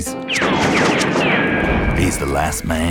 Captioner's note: gunshots